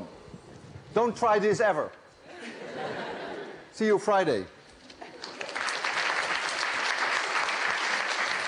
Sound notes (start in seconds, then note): 2.2 laughter; 5.0 applause